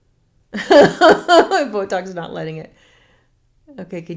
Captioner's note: laughs